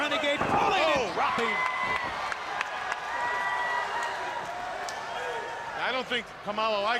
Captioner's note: crowd cheering